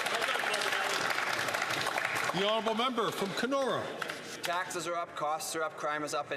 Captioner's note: some Applause